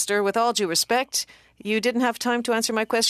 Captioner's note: speaking French